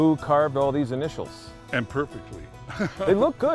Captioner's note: laughs